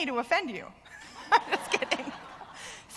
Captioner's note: laughter; laugh